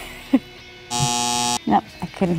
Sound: buzzer

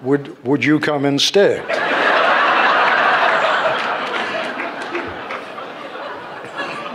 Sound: laughter

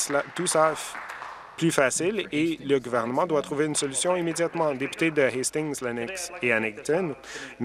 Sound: applause

